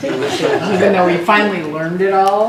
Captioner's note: laugh